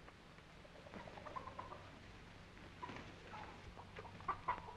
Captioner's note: chickens clucking